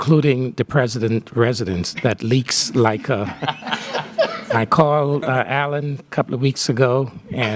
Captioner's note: laughter